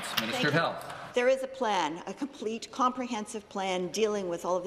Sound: some Applause

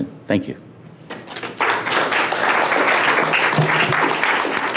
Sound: applause

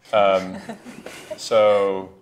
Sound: laughs

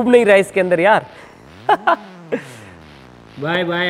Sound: laughing

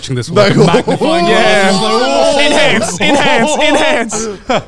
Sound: group chattering

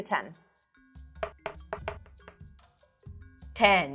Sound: dice thudding

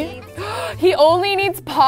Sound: gasps

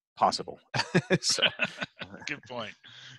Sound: laughing

